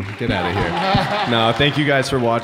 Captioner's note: Jared and Matt laughing